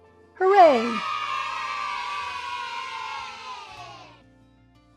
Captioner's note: kids cheering